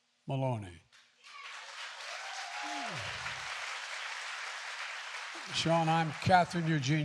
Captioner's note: applause